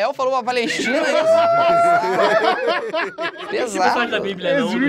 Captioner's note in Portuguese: risadas